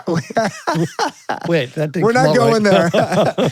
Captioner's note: laughing